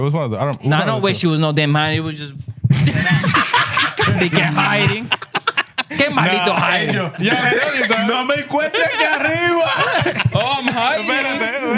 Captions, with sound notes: It was one of the-- No, I don't wish she was not there, man. It was just-- (Laughing) They kept hiding. (Speaking In Foreign Language) Oh, I'm hiding?